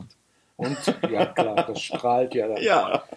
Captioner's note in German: Beide lachen